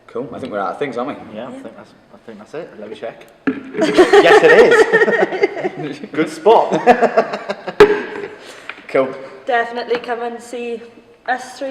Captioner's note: laughing